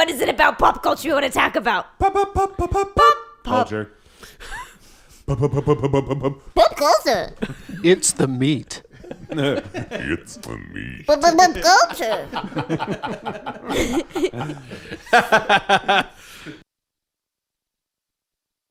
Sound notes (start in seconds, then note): 2.8 singing; 8.9 deep voice; 17.2 cast laughs